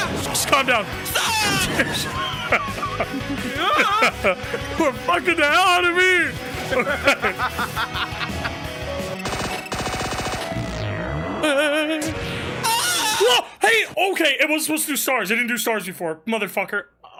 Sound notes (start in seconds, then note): 1.5 laugh; 6.4 laugh; 11.4 warbles; 12.6 yells